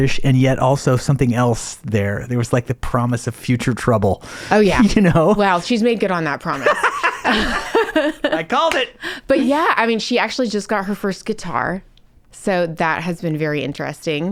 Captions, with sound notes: and yet also something else there. There was like the promise of future trouble. - Oh yeah. - You know? - Wow, she's made good on that promise. (laughing) - I called it. - But yeah, I mean, she actually just got her first guitar. So that has been very interesting.